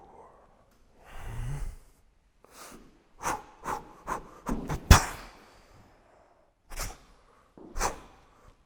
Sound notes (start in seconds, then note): 3.0 four quick exhales